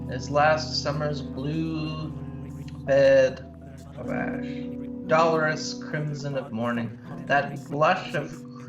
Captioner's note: glitches and blips fade